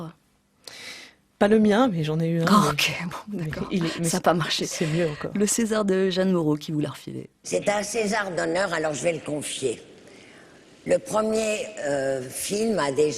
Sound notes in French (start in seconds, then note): 7.4 voix off de Jeanne Moreau